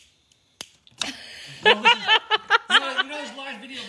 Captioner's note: laughing